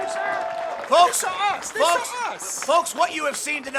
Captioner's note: crowd cheering